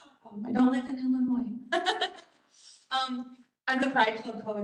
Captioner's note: laughs